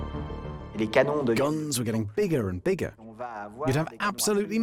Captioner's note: voiceover